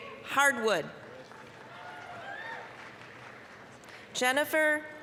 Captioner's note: applause, cheering